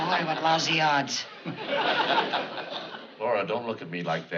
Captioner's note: chuckles